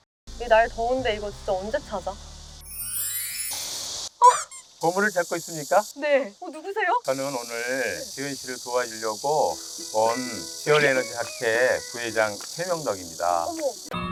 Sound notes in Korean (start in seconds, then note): 2.5 반짝이는 효과음